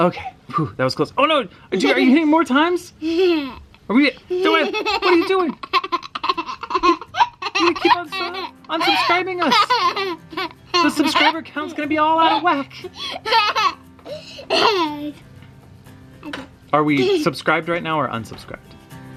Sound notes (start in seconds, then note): 4.2 giggling; 4.2 laughs